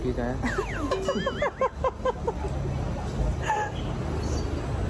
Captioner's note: laughing